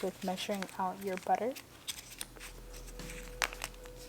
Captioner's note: unwrapping butter sounds